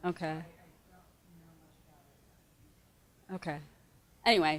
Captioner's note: speaks off microphone